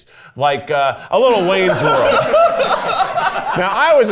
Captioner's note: everyone laughs